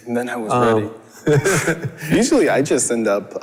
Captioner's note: laughs